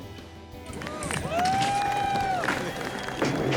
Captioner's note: people cheering